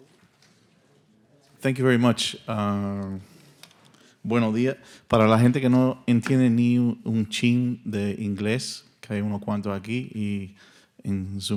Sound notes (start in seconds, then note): 4.4 speaking in Spanish